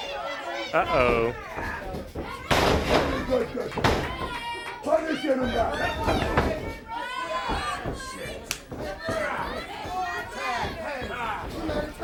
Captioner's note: crowd chatter